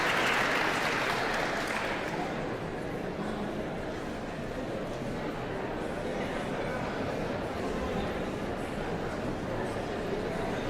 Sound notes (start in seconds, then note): 3.2 audience chattering continues